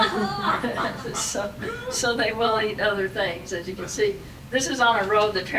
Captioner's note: audience laughing